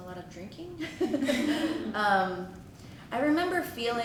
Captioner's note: laughter